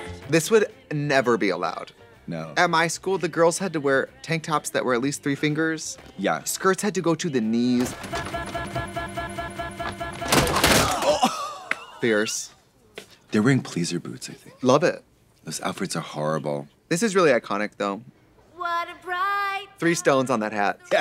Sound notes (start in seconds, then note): 7.8 CD track skipping; 10.3 loud kick - student groans